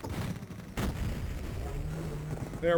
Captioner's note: RPG launch SFX; explosion